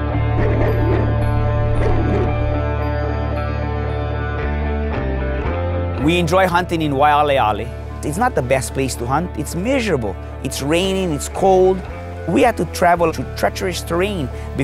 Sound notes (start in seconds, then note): 0.2 dogs barking